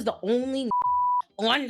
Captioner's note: beep